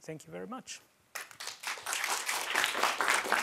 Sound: applause

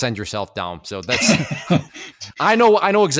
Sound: laughs

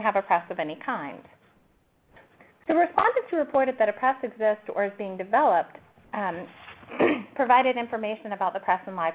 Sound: cough

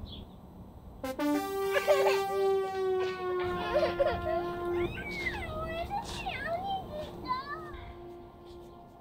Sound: crying

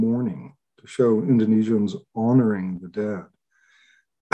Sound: clears throat

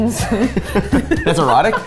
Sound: laughing

